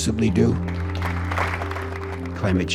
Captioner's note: audience applauding